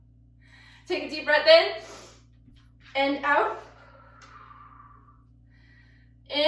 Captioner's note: breathes deeply